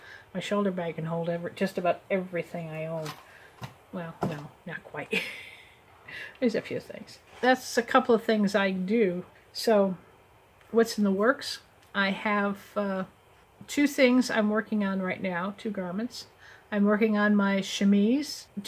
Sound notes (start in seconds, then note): 5.1 chuckle